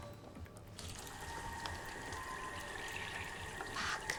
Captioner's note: water runs